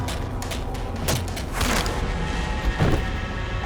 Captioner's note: pitchfork thudding; head thuds